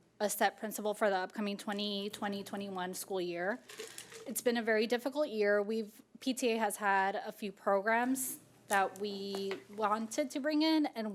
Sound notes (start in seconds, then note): none